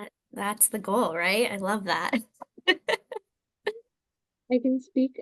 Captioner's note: chuckles